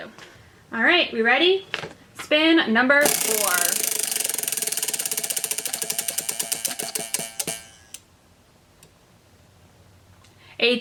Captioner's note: wheel spinning